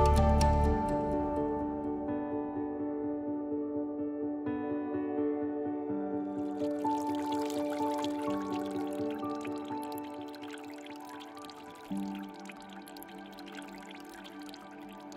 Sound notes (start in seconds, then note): 7.5 water trickles